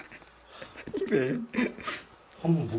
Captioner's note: laugh